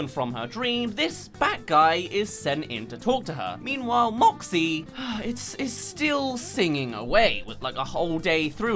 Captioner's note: sigh